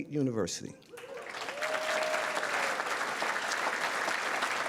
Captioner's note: audience applause